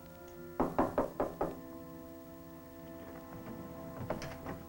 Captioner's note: knocking